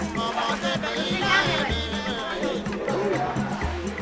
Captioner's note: chattering In Kinyarwanda